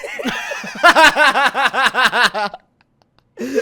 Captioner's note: laughing